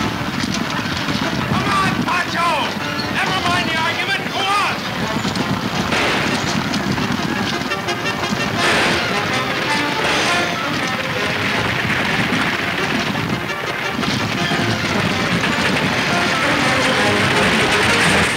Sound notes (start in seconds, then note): 4.8 exciting orchestra music; 4.8 guns firing; 15.9 clattering; 18.1 pleasant orchestra music